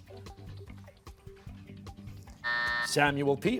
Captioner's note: buzzer